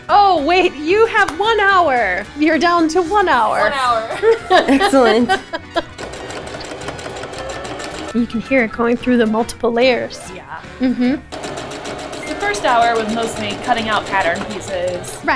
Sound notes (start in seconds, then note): 3.6 laughs; 5.8 sewing machine running; 11.3 sewing machine running